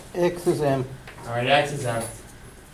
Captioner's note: voiceover